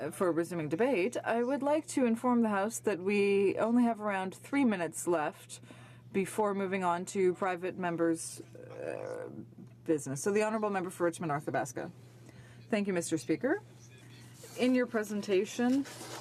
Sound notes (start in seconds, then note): 7.2 speaking French